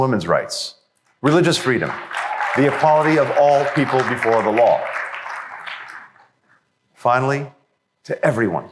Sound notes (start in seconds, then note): 1.2 applause